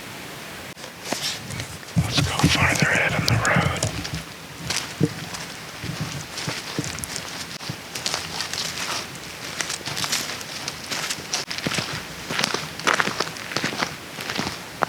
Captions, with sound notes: Let's go farther ahead on the road. (leaves crunch)